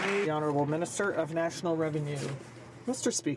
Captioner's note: some Applause